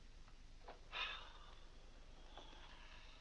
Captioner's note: sighs